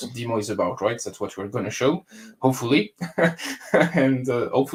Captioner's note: laughs